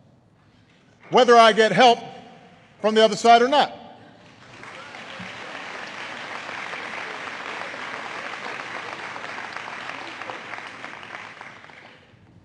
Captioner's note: applause